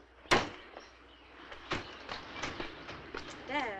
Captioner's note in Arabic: صوت طرق الباب